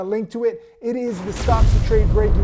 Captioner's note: logo explodes